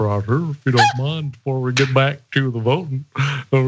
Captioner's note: laugh